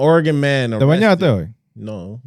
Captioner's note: speaking In Foreign Language